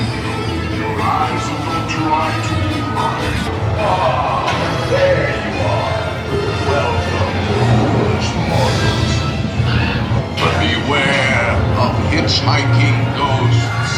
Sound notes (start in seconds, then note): 9.6 crow caws